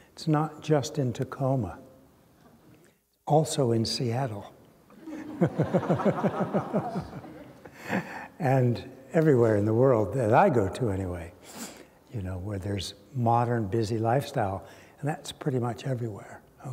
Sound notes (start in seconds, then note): 4.9 laughter